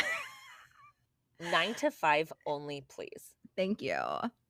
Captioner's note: laughing